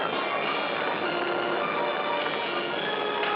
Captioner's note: thunderclap